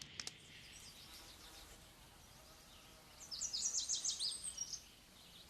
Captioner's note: birds chirping